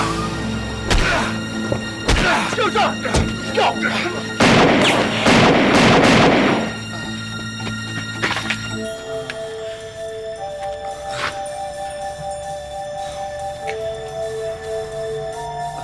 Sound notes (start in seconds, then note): 4.4 gunshot